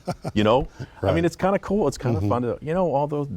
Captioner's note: laughter